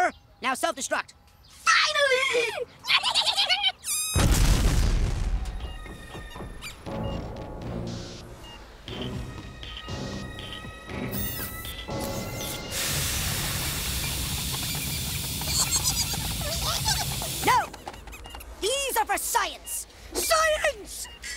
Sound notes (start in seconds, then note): 2.9 giggling; 4.2 explosion; 15.5 giggling